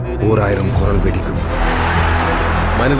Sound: crowd cheering

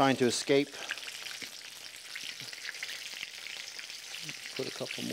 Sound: oil sizzling

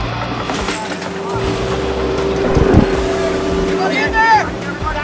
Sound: engine rumbles

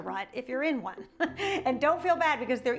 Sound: chuckles

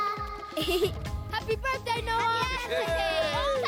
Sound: giggling; cheering

